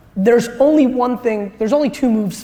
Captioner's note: none